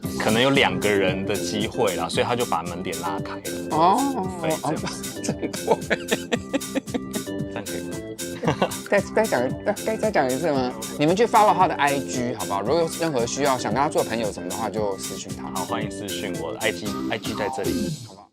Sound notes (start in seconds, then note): 4.6 voice cracks